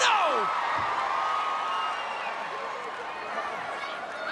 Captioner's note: crowd cheering